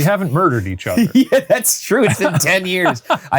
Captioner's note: laughs; laughing